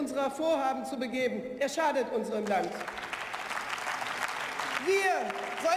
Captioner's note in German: Beifall